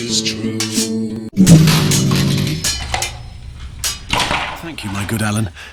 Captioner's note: a lute smashes to pieces